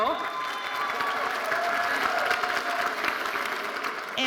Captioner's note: audience cheering